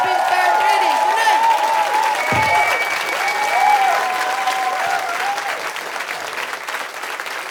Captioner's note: audience cheers